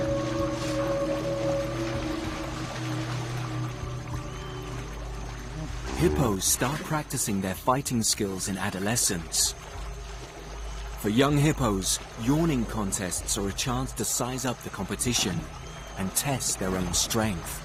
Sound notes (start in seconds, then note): 6.4 tense music continues; 13.1 hippos growling